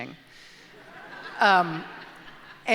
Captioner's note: audience laughs